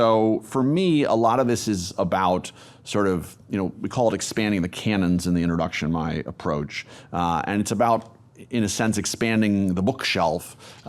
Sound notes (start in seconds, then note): none